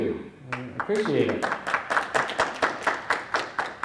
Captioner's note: applause